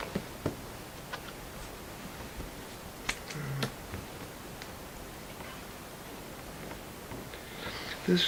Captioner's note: silence except for album pages flipping